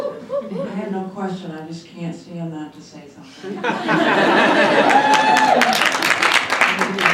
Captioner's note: laughter